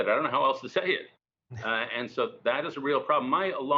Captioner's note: laughter